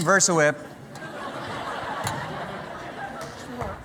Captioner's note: laughter